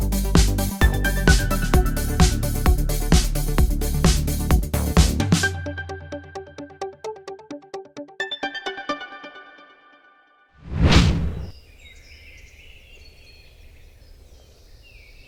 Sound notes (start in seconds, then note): 10.6 wind whooshing; 12.3 birds chirping